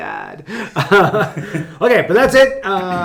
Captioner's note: both laughing